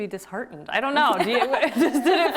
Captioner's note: both laughing